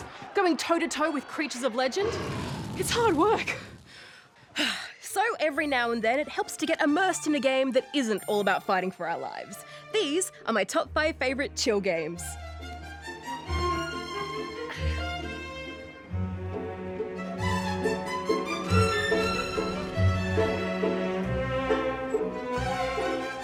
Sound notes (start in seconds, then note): 4.5 sighs; 12.2 serene music plays